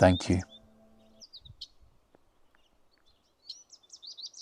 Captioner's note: birds chirping